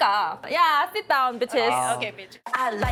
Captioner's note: speaking in English